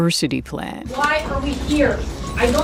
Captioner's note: soundbite of archived recording